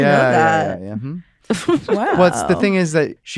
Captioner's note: chuckles